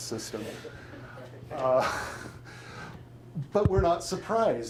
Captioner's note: chuckles; audience laughing